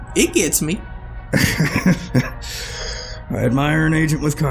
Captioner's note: Edgar laughs